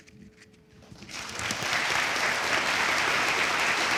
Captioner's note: audience applauds